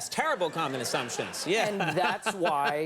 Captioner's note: laughs